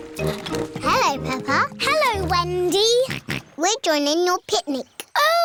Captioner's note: snorts